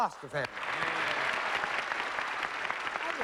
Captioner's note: applause